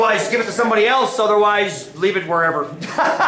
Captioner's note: laughter